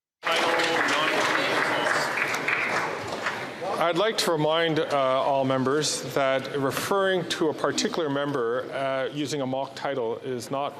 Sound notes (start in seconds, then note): 3.4 applause